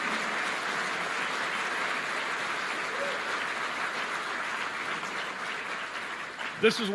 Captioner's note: applause